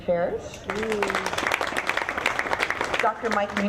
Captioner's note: audience clapping